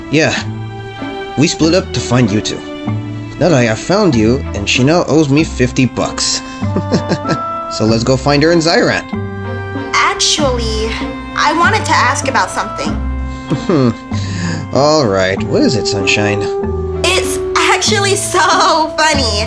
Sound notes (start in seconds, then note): 6.5 chuckles and takes Mila’s hand; 13.4 cheerful/chuckles